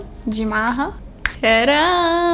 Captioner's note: snaps fingers